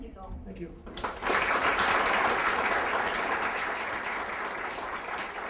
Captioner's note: applause